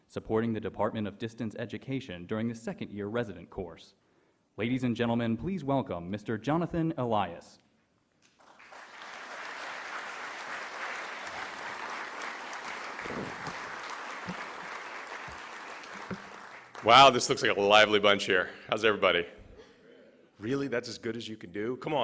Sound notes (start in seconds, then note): 8.6 applause; 19.7 voiceover